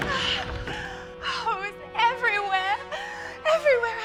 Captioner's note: gasps